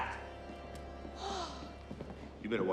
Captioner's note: tense music ends; sighs